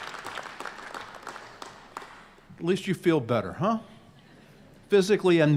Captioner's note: applause